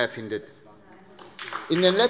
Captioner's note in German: Beifall SPD